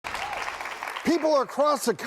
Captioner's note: clapping